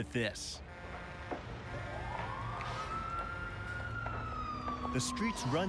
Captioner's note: horn honking. siren wailing